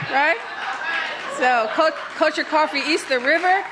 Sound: applause

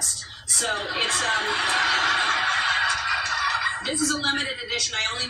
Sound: audience laughter

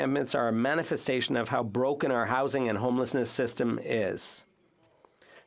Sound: speaking French

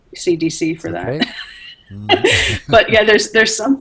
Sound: laughs; chuckles

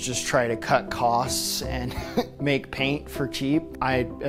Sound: laughter

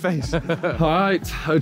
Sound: laughing

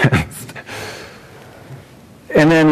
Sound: chuckles

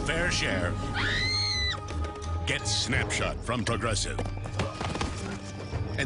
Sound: screams

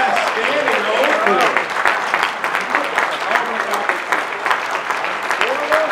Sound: applause; applause

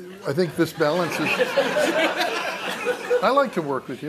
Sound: laughter

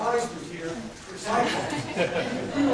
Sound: laughter

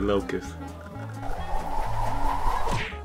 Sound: whooshing newspaper

